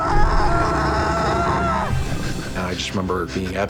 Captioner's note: screaming